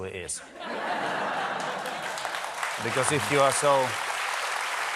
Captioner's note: applause